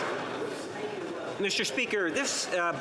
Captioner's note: some Applause